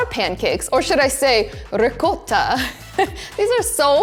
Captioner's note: giggles